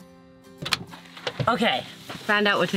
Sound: door opening

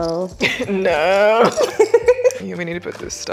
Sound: laughing

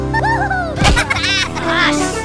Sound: Minions Laughing

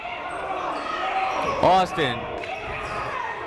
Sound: shouting

